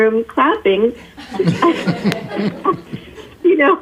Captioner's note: laughing